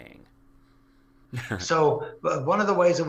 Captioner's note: laugh